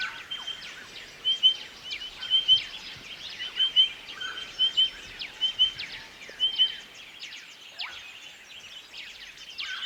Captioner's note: ambient and Pardalote sounds